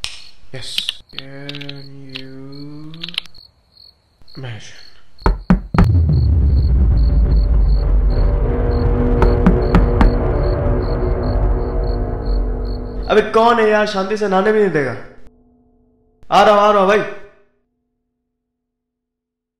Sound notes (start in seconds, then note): 5.2 Door Knocks